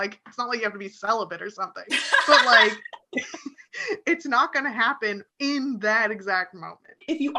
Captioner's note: laughs